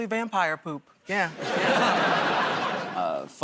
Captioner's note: laughter